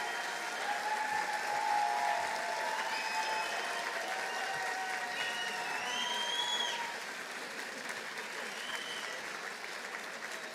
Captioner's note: applause; cheering